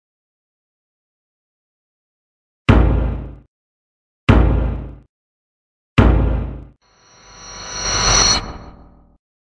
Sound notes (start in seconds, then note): 2.7 thump; 6.0 thump; 7.0 suspenseful sound